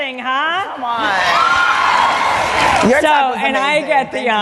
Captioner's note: cheering and Applause